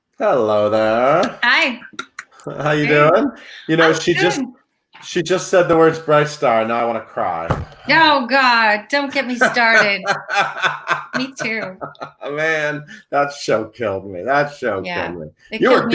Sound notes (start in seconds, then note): 9.2 laughs